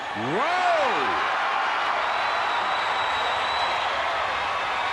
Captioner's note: audience cheering